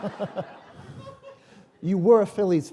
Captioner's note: laughter